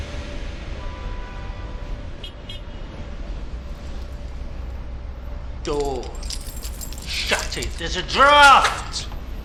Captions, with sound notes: (horn honking) - Door. Shut it, there's a draft.